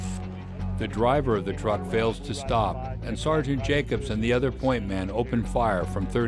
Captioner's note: voiceover